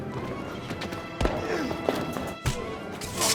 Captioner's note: footsteps pattering; Sonny grunts; blow lands; blows lands; electricity sizzling